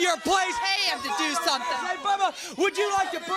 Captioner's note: crowd cheering